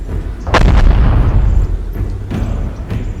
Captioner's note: tank firing